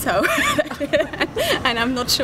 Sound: chuckles

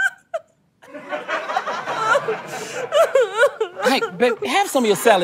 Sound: audience laughter

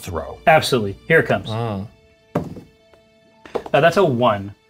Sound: dice rolling

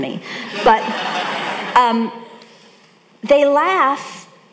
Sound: audience laughing

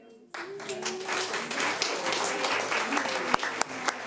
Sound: audience applauding

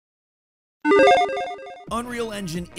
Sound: logo beeps

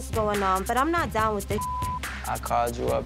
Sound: beep

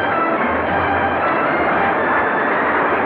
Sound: news paper printing machine sound

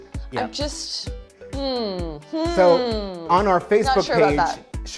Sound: groaning

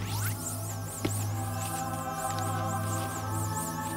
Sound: helmet whirring

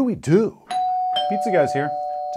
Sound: doorbell

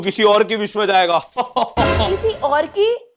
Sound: Santa laughing

